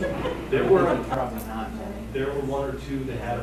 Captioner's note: laughing